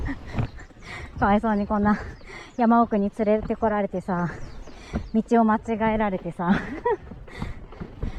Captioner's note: laughs